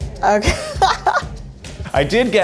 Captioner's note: laughs